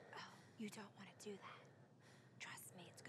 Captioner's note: whispers